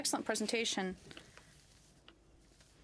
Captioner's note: speaking French